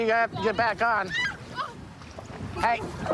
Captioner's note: screaming